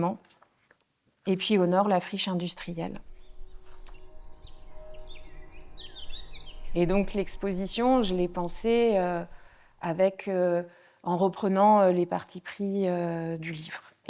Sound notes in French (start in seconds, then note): 4.4 bruits d'oiseaux